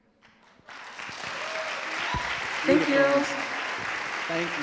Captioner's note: audience cheering and clapping